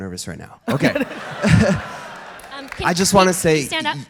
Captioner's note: audience laughter